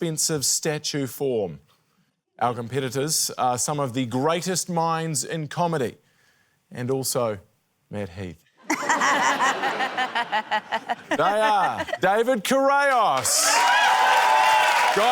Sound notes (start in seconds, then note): 8.6 laughter; 12.9 cheering, applause